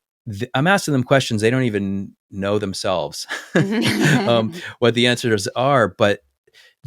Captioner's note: laugh